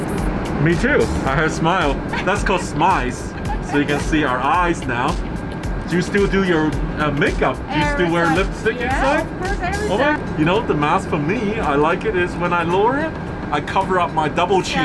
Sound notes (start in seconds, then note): 1.8 laughing